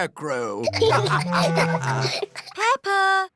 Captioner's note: laughter